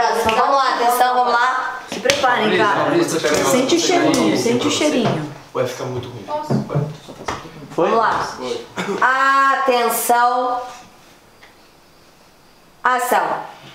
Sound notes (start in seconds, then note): 2.8 indistinct chatter; 5.3 indistinct chatter